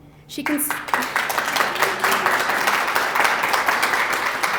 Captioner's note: applause